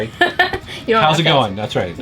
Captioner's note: laughs